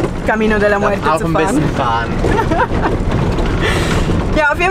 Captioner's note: laughter